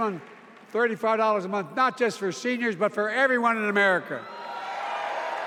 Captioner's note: applause